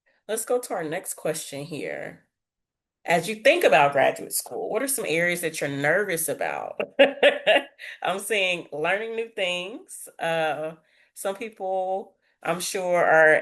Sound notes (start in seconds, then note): 6.8 laughs